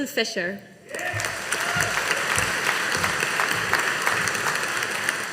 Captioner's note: audience applauding